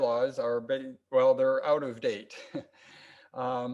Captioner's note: laughs